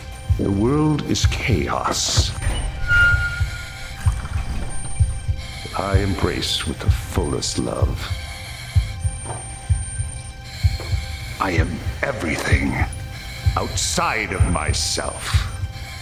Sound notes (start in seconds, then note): 2.4 doors creaking; 8.2 footsteps